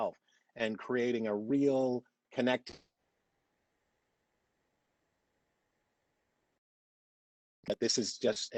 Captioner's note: audio drops